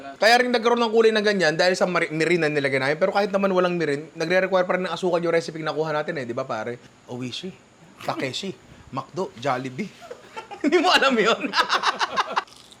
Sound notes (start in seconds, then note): 9.8 laughs; 9.9 laughter